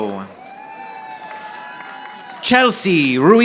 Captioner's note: audience applauding